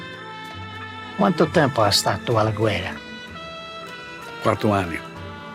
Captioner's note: speaks in Italian